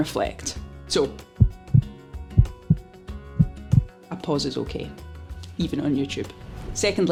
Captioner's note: heart beating